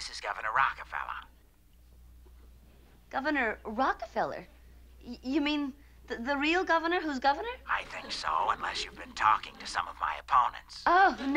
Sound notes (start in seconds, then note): 0.8 on phone; 7.9 on phone